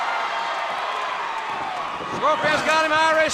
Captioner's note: crowd cheering